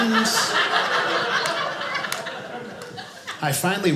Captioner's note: audience laughing